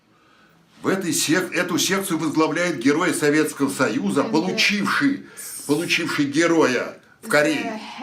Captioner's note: foreign language